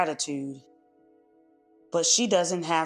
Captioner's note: pause